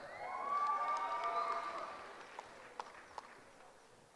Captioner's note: cheering